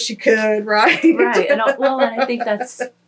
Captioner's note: laughs